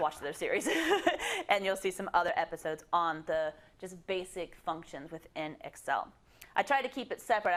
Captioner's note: laugh